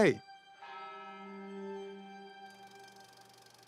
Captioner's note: bell tolling; film reel whirring